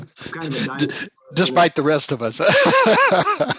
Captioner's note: laughing